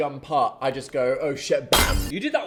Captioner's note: glass shattering